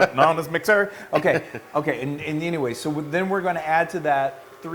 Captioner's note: laugh